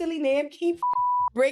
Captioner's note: beep